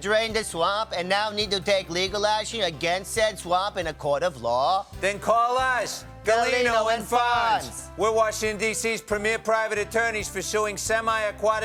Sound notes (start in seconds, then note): none